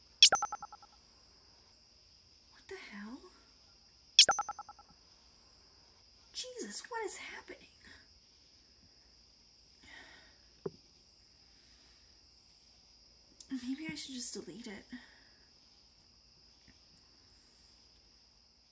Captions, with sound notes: What the hell? Jesus, what is happening? [Sigh] Maybe I should just delete it.